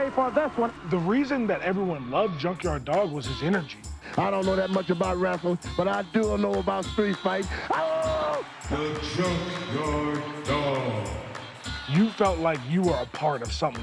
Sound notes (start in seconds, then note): 7.0 howling